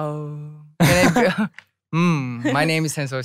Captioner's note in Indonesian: tertawa